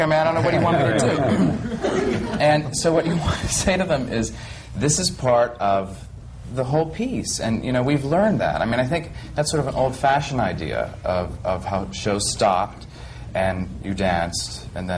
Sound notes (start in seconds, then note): 0.3 laughter